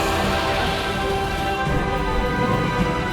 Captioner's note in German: Bestie brüllt